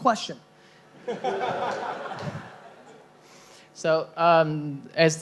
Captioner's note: laughing